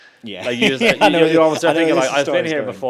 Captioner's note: laughs